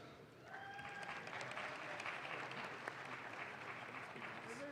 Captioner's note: audience claps